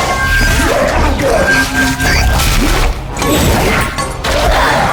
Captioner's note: energy whizzing continues